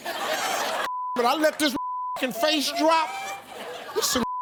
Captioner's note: beep; beep